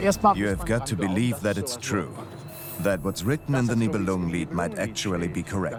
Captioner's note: in German; dubbed in English